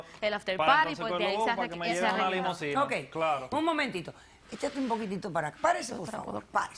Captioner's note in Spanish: Hablan al unísono